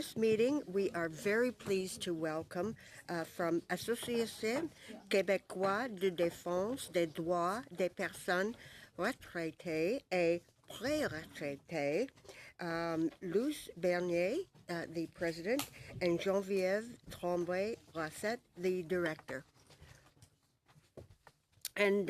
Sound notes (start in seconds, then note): 15.0 speaking in french